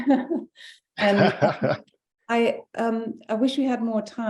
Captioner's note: laughing